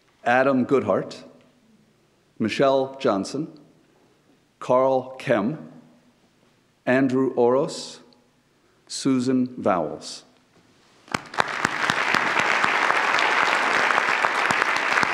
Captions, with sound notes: Adam Goodheart. Michelle Johnson. Carl Kem. Andrew Oros. Susan Vowels. (claps) (audience applauds)